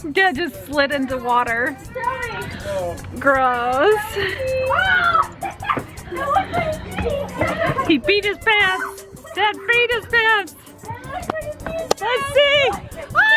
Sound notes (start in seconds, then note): 3.9 screaming and laughing